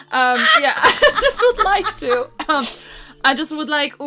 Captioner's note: laughter